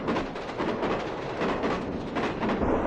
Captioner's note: none